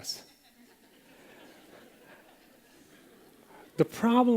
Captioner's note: laughter